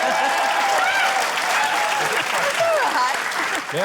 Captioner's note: cheering, applause